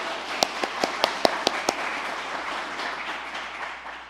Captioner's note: applause